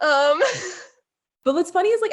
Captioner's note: laughing